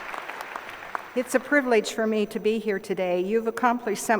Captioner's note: applause